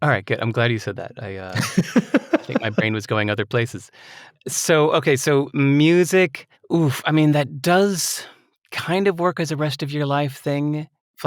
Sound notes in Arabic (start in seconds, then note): 1.5 يضحك